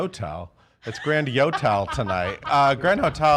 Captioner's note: laughing